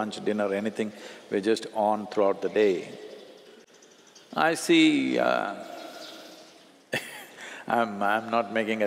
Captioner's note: laughs